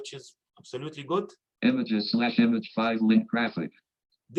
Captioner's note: automated Voice